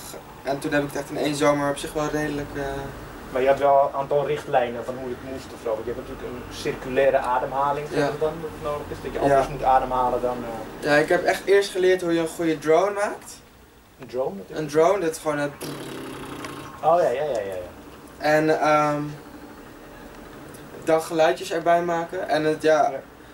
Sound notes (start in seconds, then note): 15.3 makes drone sound